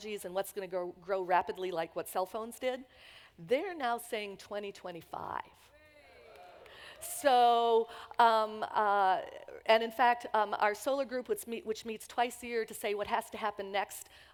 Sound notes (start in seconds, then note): 5.9 audience reacts